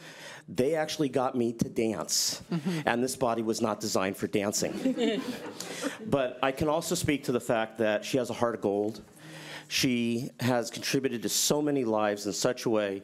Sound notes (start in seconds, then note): 4.7 laughing